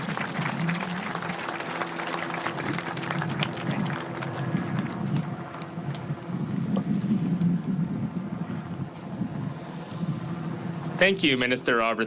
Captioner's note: applause